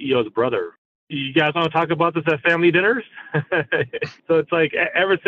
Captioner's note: laughs